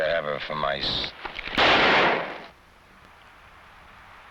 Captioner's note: gun blasting